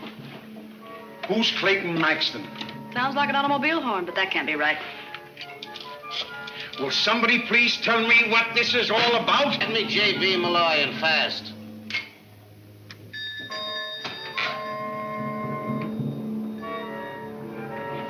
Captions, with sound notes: - Who's Clayton Maxton? - Sounds like an automobile horn, but that can't be right. (camera clicks) - Will somebody please tell me what this is all about? - Give me J.P. Malloy and fast. (bell rings) (suspenseful music)